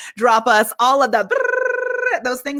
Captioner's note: makes ringing noise